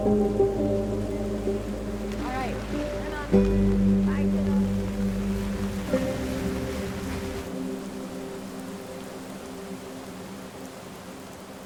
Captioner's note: melancholic music continues; wind blowing